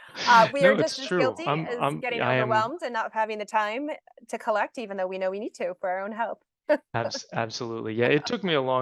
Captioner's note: chuckles; chuckles